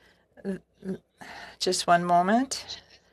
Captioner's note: speaking in French